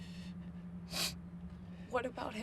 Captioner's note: Tyler sniffs